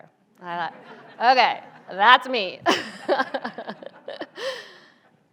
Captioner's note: audience laughs; laughs